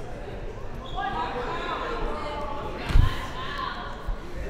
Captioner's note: players yelling